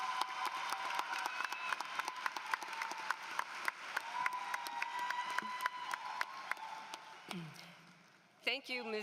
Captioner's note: applause